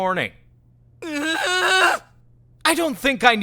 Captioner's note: terrified groan!